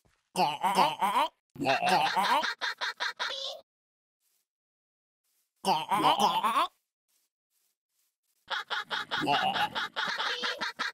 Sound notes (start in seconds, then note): 1.6 villager choking in unison; 5.6 villager choking in unison